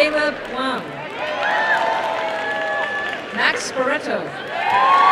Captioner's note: applause and cheering